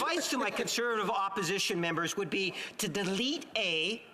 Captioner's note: laughter